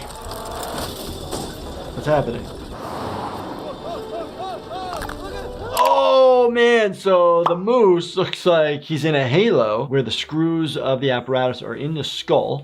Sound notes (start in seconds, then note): 0.2 wind rushing; 3.6 Disco Bear exclaiming